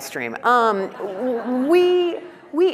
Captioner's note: laughing